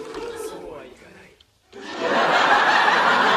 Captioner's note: audience laughter